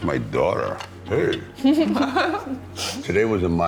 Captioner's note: laughing